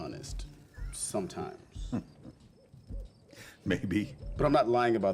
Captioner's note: chuckles